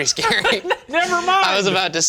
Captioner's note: laughing